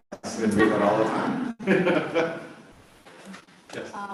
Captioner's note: laughter